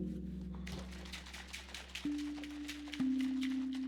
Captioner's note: eerie music; liquid shaking